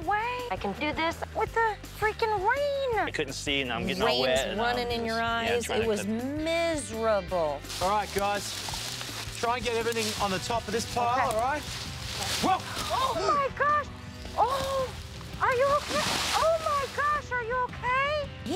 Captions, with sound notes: There's no way! There's no freaking way! Rain's running in your eyes. It was miserable. on the top of this pile, all right? ( gasping ) Oh, my-- are you okay?